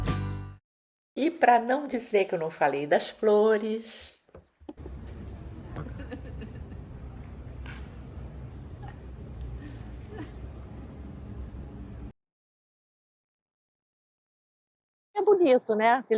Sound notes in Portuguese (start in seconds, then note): 9.7 risos